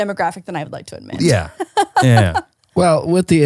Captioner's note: laughing